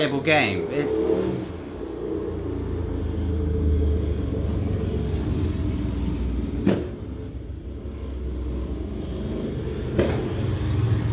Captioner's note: loud vehicle noises